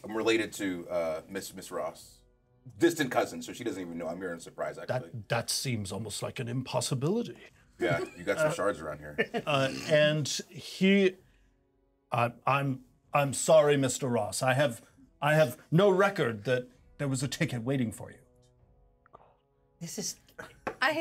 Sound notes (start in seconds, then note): 7.8 speaker laughs